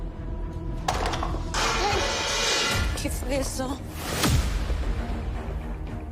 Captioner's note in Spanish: Estruendo